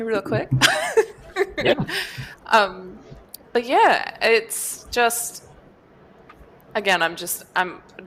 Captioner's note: laughs